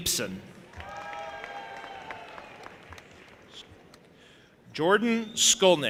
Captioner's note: audience applauding and cheering